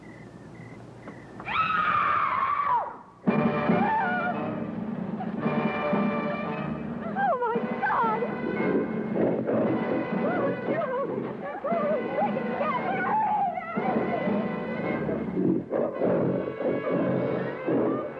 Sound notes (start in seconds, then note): 1.4 screaming; 9.7 growling; 12.7 yelling; 15.2 growling